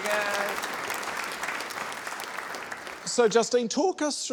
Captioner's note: applause